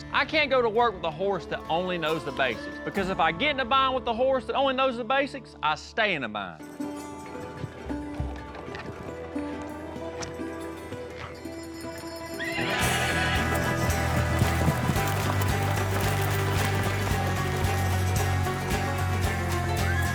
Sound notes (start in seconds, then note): 12.4 horse neighs, starts bucking; 19.9 horse neighs, continues bucking